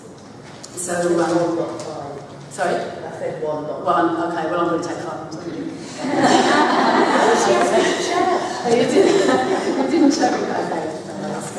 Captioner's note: comment and laughter